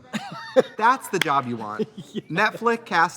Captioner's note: laughs; Katya claps hands